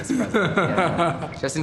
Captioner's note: laugh